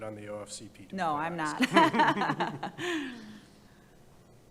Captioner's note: laughs